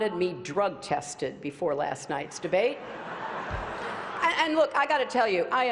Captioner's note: laughter